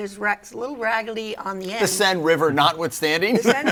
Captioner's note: laughs